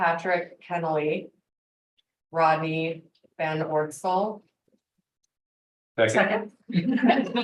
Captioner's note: laughter